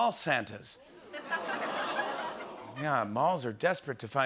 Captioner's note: audience "aws"